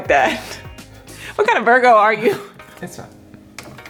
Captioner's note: laughing